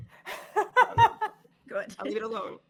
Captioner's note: all laughing